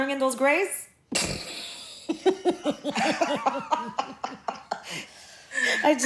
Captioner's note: laughing